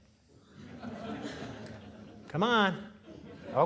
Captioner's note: audience laughing